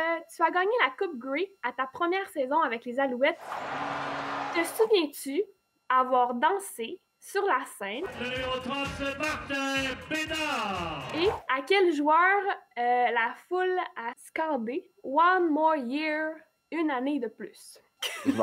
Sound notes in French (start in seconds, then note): 3.4 acclamations